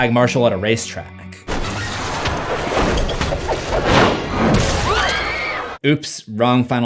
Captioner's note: car crash